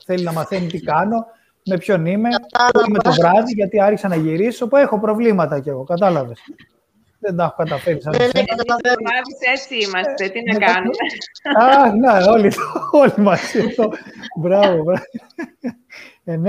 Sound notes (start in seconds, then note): 10.5 Γέλια